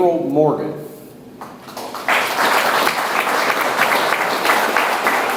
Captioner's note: audience applauds